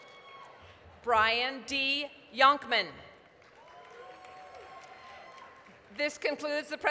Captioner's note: applause, cheering